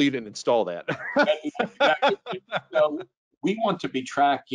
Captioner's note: laughing